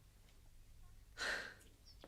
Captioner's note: sigh